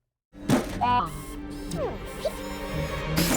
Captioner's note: mechanical whirring